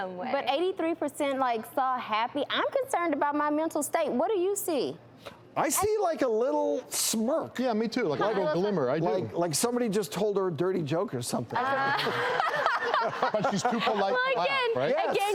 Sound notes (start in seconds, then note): 11.6 laughing